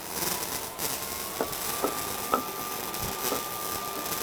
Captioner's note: tools humming